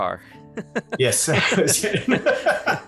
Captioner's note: laughs; laughing